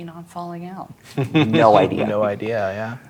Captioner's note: chuckling